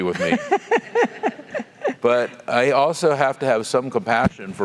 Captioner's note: laugh